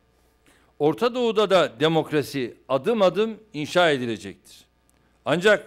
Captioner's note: non-english speech